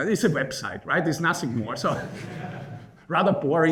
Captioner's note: laughing